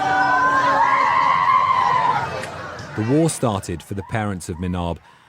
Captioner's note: crowd chanting